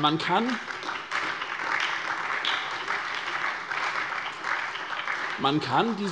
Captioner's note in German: Beifall bei der SPD